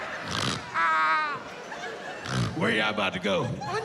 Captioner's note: snorts; snorts